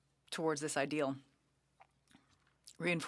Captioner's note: speaking French